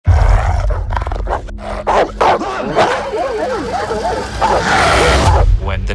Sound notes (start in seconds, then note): 0.0 dog growling; 1.1 dog barking; 2.7 dogs barking; 4.3 dog growling